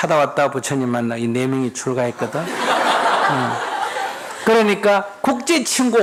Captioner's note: audience Laugh